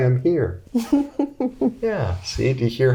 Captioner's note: laughing